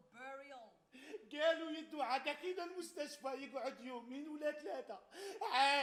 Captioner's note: man speaks Arabic